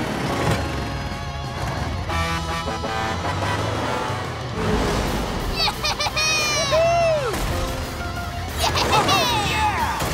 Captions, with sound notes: [horn honking] - Yeah-heh-heh-heh! - Whoo-hoo! - Yeah-heh-heh-heh! - Oh, yeah!